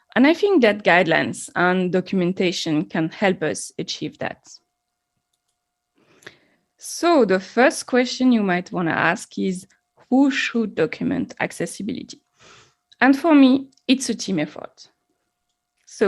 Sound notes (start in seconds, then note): 5.3 mouse clicking